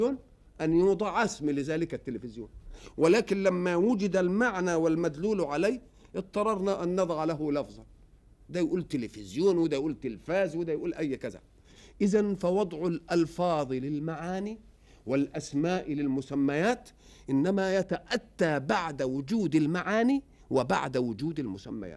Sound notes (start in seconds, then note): 10.6 in Arabic